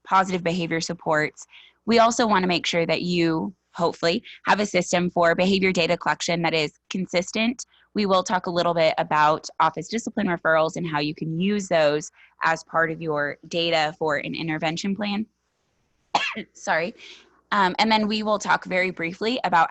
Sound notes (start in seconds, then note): 16.1 coughs